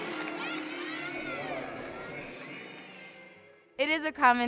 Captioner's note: crowd cheering